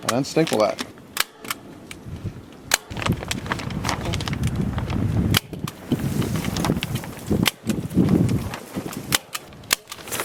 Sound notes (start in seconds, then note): 2.3 wind rustling; 4.3 plastic crackling